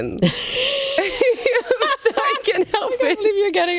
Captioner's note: laughs